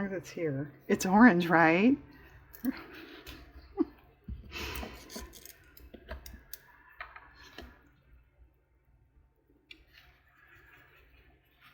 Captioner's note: laughs